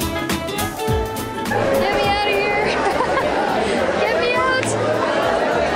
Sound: laughter

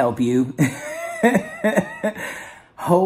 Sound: laughs

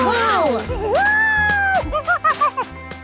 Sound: monkey noises

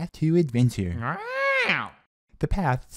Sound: excited squawks

